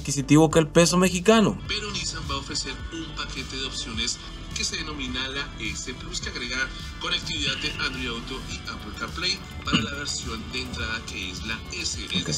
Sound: man speaking in Spanish

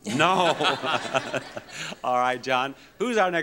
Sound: laughs

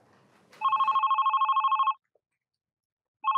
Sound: phone Ringing

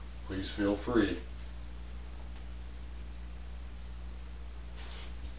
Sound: footsteps

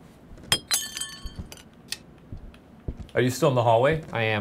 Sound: glass shatters

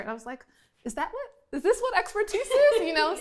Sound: laughing

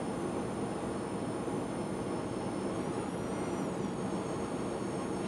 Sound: whirring

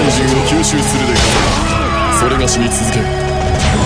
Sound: KO Scream

